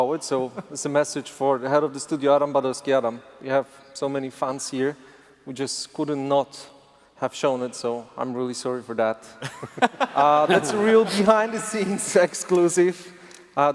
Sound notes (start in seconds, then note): 9.4 laughter